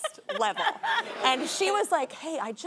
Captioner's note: audience laughing